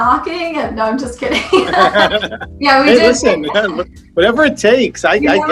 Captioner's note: both laugh